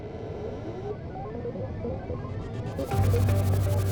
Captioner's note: computers booting up